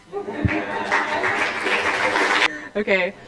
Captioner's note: applause